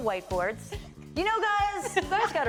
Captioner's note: both laugh